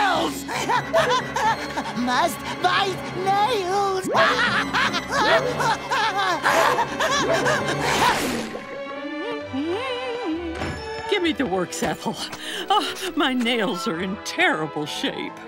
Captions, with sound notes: [laughing] Must bite nails! [laughing] [humming] Give me the works, Ethel. Ugh, my nails are in terrible shape.